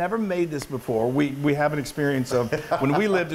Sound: laugh

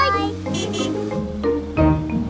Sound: horn honking

